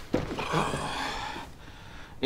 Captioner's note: exhales